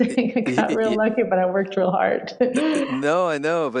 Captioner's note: laughs